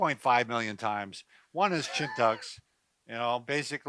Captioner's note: laughing